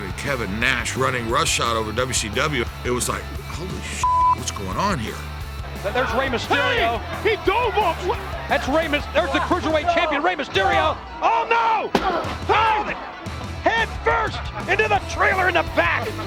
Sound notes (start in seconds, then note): 3.9 beeps; 11.7 wrestling groans